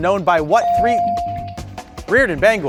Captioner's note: bell ringing